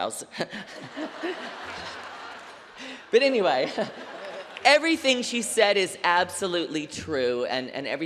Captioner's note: laughter